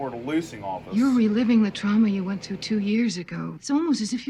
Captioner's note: on TV